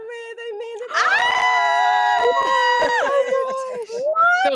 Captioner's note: everyone screams